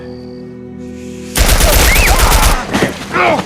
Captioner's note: gunshots